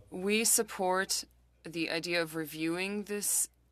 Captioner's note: speaking French